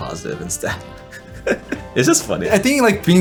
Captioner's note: laughs